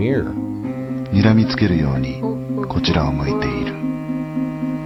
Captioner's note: speaking in foreign language